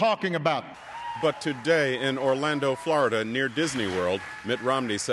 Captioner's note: cheering and applause